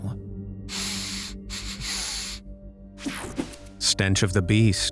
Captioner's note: man sniffing